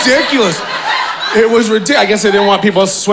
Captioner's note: audience laughing